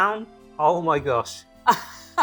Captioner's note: laughs